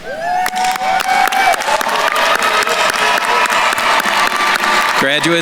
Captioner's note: attendees cheering and applauding